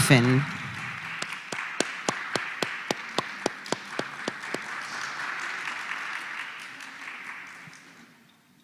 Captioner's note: applause